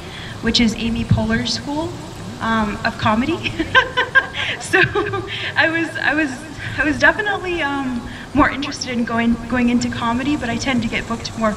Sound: laughs

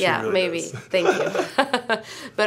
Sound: laughs

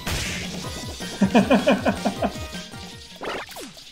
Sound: laughs

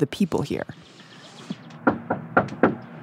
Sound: three knocks on a door

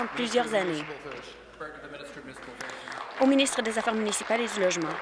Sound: applause

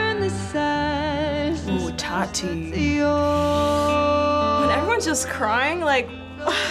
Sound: sucks in breath

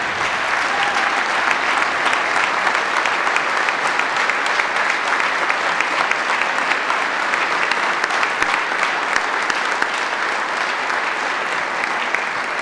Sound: applause

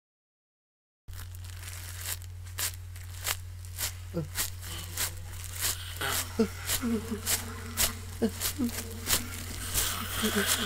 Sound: noise of zombie on the leaves

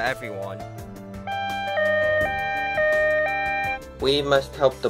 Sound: police sirens

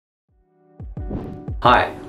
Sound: chill music; transition whooshes

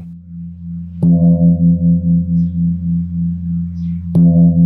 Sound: gong sounds

